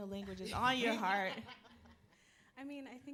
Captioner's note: panelists laughing